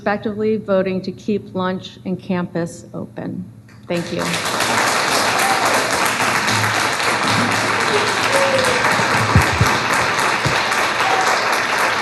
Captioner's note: applause